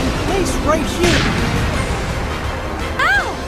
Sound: smack! boom!

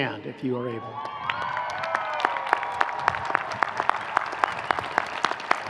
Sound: audience clapping

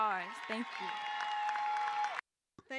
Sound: cheering

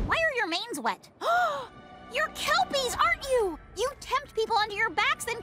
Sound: gasps

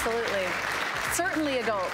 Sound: clapping

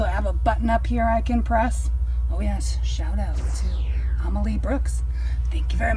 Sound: laser beam

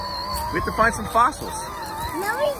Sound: engine roaring

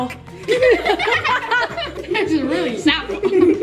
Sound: giggling

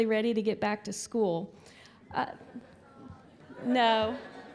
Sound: crowd objects

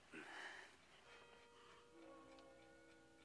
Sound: clock chiming

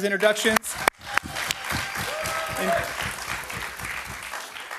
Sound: audience applauding

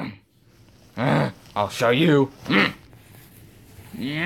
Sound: frustrated groan

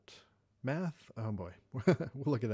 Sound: laughs

